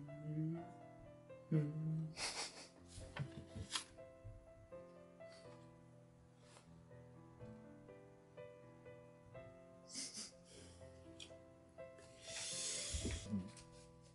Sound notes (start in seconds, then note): 6.2 laughs